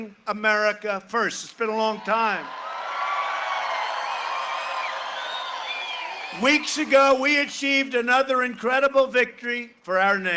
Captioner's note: cheering and applause